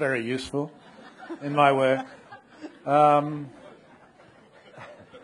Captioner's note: audience laughing